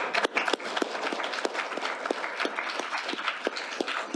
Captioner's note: applause